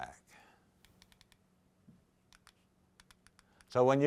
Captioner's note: clicking